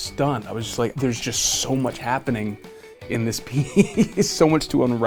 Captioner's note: laughs